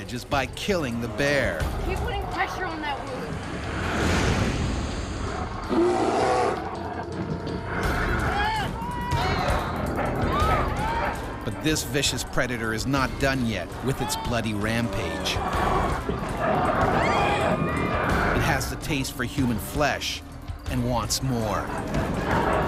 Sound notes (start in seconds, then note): 0.0 voiceover; 5.1 bear growling; 8.6 yelling; 11.8 voiceover; 16.7 screaming